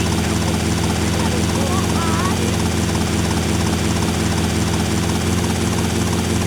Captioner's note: helicopter whirring